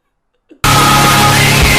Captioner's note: distorted desperation intensifies